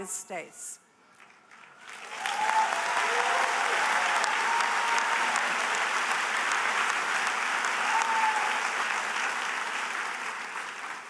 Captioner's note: applause